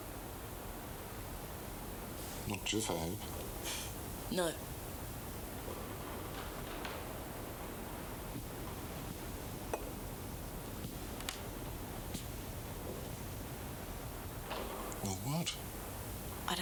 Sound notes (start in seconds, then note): none